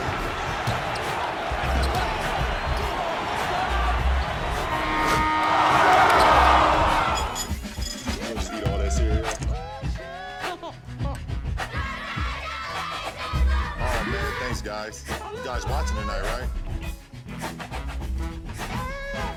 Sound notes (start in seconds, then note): 0.2 crowd cheering; 4.7 buzzer goes off; 6.2 crowd cheering